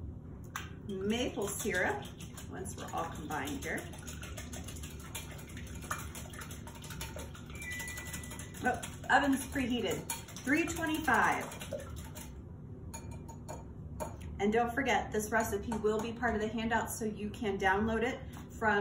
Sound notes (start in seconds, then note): 3.7 splashing sounds; 7.6 oven beeps